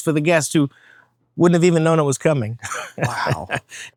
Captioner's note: laughs